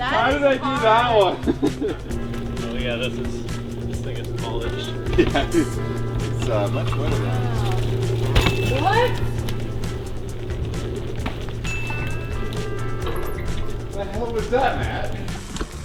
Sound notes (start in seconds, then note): 1.7 laughs; 5.3 laughing; 8.5 wheels squeaking; 9.6 wheels whooshing; 10.1 lively music; 11.8 wheels whooshing